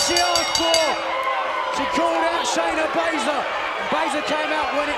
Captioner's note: bell ringing